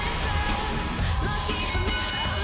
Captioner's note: bell ringing